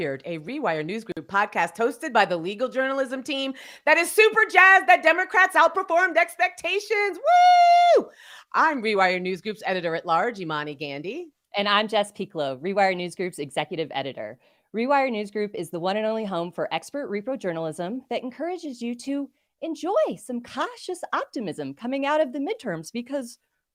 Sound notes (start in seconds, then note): 11.4 wooing